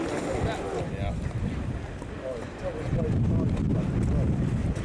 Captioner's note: wind noise and people chattering nearby